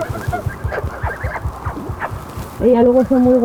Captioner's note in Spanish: sonido de besos y el corazón de la oca latiendo junto al micrófono de